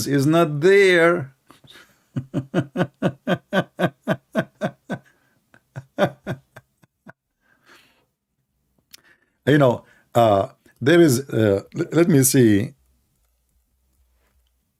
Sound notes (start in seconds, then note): 5.5 Ketawa er